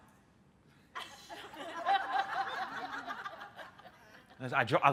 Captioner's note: laughter